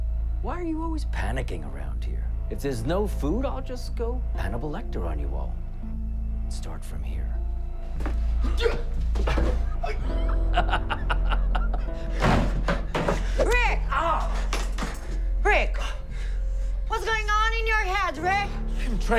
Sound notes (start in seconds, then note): 9.2 laughing